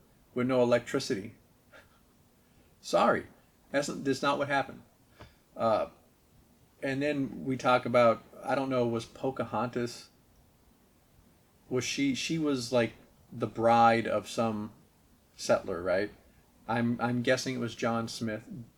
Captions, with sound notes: with no electricity. (chuckles) Sorry! That's not what happened. Uhh... and then we talk about... I don't know, was Pocahontas... was she—she was like... the bride of some... Settler, right? I'm guessing it was John Smith?